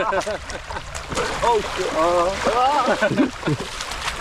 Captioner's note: water splashing